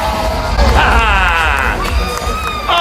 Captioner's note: laughs